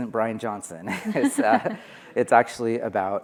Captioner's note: all laughing